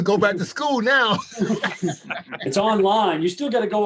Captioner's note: chuckling